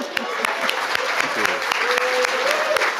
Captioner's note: audience laughing; audience applauding